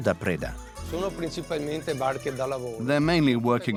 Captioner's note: Italian spoken audio